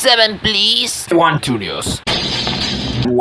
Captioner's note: says it like it's Spanish